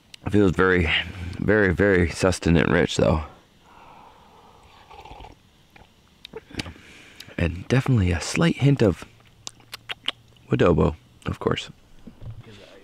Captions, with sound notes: It feels very very very sustanent enriched though. And definitely a slight hint of (lips smacking) Woodobo, of course.